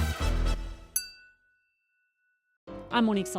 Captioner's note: glasses clinking